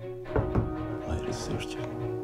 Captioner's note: knocking